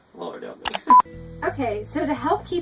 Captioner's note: click and beep